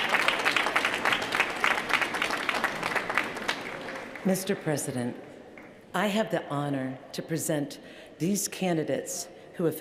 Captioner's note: cheers & applause